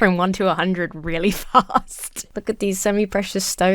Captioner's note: laughs